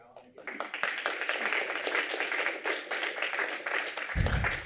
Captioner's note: applause